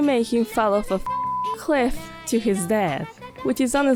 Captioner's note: beep